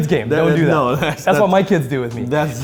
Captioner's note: laughs